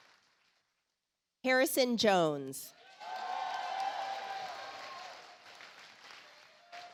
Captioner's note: audience applauds